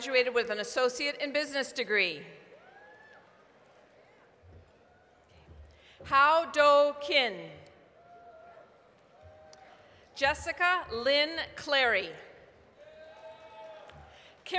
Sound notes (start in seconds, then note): 8.6 applause; 12.6 applause, cheering